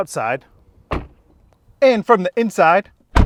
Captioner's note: door thuds